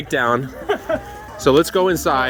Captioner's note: laughing